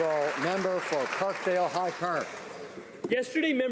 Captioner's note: some Applause